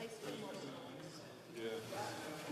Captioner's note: speaking FRENCH